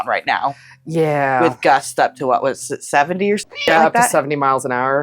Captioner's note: meow